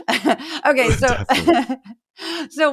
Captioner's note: laugh